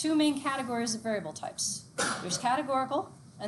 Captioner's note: student coughs